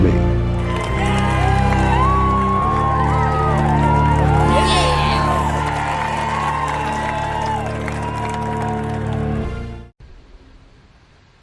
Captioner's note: cheering